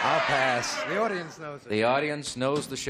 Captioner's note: audience yelling "pass"